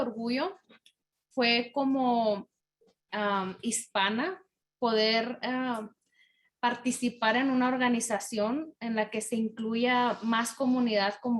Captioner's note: in spanish